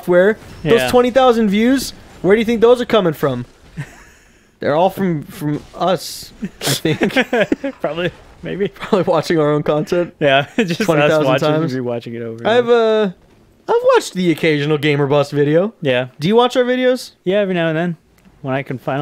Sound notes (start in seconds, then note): 5.3 exhales with laughter; 6.4 laughing